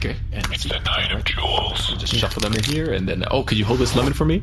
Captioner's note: whispering